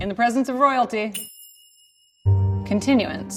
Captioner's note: tiara dings